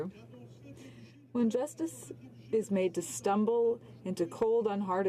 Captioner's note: speaking French